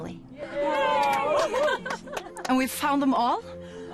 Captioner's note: cheering